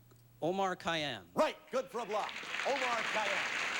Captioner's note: audience applauding